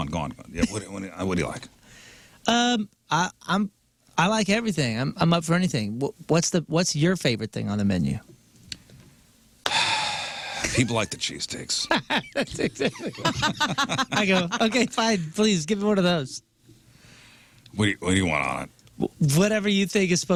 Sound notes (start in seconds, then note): 11.8 laughing